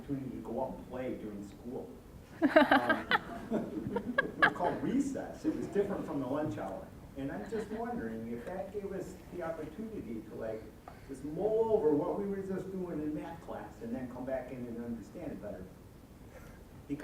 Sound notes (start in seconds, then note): 2.4 all laughing